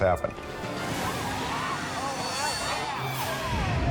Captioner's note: screams